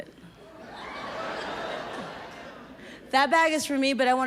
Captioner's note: audience laughs